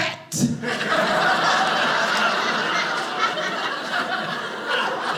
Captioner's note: audience laughing